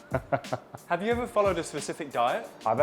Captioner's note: laughs